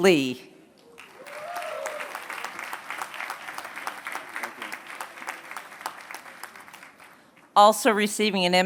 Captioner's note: applause